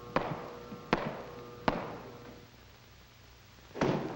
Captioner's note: footsteps echoing